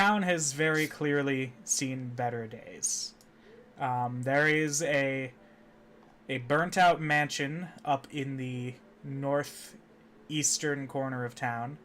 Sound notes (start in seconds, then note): none